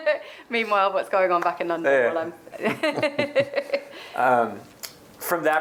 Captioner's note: laughing